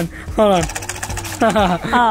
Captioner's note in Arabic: يضحك